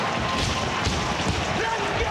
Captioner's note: audience cheering